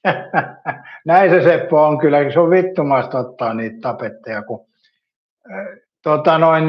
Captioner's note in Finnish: naurua